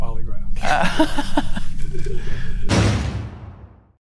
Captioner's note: laughs